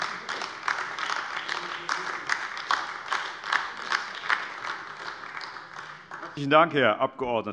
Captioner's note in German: Beifall AfD